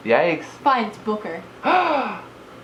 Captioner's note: gasps